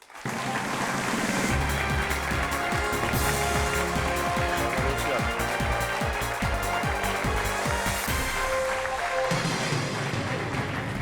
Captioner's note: applause